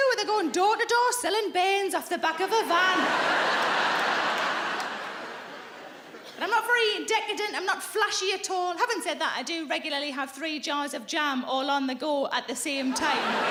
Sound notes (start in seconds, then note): 2.6 audience laughing; 12.8 audience laughing